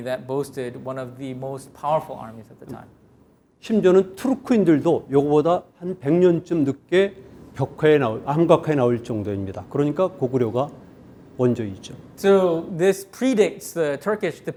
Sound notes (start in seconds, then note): 3.7 speaking in Korean